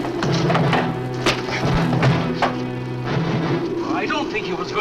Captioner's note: fist thuds